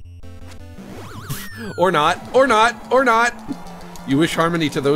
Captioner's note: scoffs